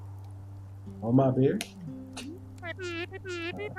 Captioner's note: laughs softly